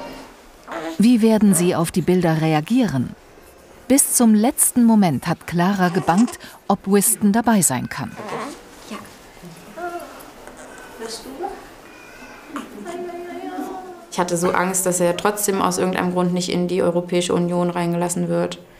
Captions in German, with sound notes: Wie werden sie auf die Bilder reagieren? Bis zum letzten Moment hat Clara gebangt, ob Wiston dabei sein kann. (Leise Gespräche, Babyweinen im Hintergrund) Ich hatte so Angst, dass er aus irgendeinem Grund nicht in die Europäische Union reingelassen wird.